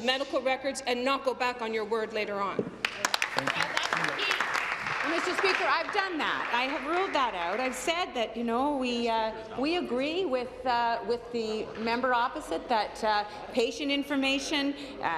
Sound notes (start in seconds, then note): 7.8 applause